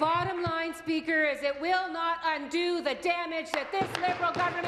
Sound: applause

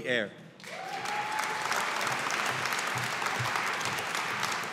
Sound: audience applauding

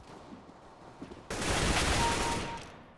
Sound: firing; kill chime

